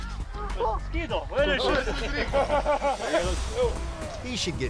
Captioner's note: men speaking in foreign language